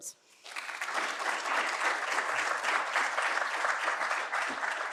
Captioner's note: audience applauding